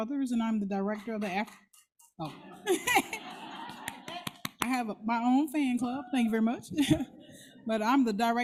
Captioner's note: applause